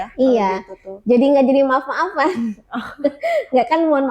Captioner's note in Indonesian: tertawa